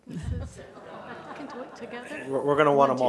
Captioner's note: laughing